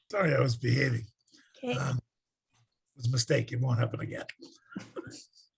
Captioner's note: laughs